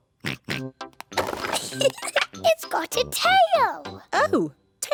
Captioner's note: oinks; giggles